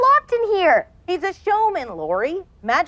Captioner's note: voiceover